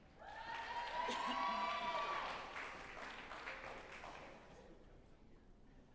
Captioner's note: group applauding and cheering